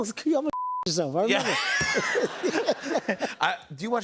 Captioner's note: laughter